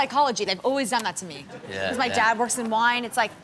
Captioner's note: audience laughs